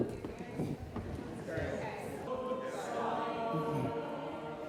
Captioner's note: side chatter and singing